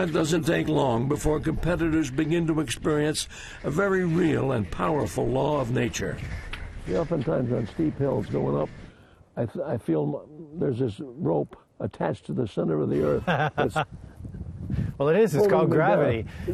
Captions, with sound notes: - And it doesn't take long before competitors begin to experience a very real and powerful law of nature. - See, oftentimes on steep hills going up, I feel there's this rope attached to the center of the earth. (laughing loudly) - Well, it is, it's called gravity. - Oh yah that's it.